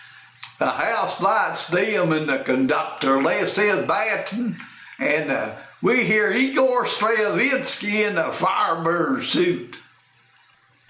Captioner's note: using announcer voice